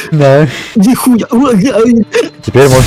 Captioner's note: surprised noises